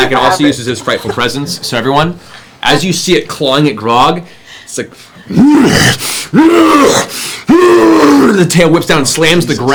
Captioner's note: roars